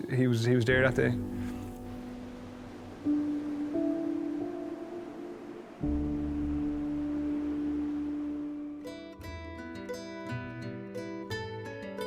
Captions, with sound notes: he was there that day. (water whooshing) (gentle music) (lighthearted music)